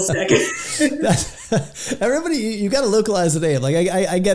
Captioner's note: laughs